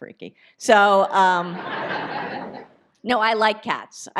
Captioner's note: audience laughs